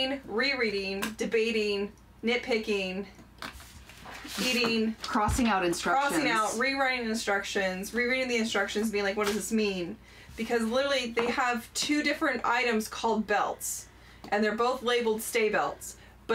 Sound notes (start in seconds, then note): none